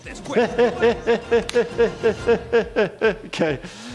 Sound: laughing

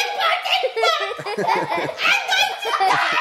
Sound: everyone laughing

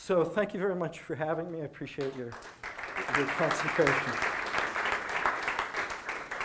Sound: audience applause

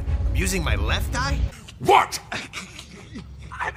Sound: rocket snickering

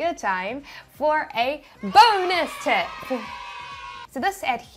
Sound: cheering

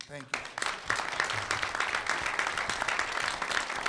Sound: clapping

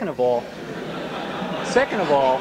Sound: laughter

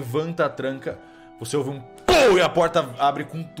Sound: pow

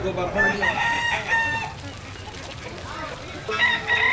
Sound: rooster crowing

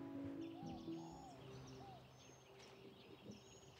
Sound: birds chirp

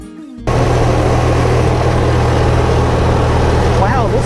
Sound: train rumbling

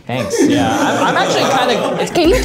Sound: everybody laughs

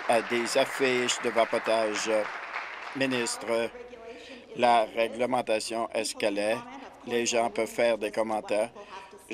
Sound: applause

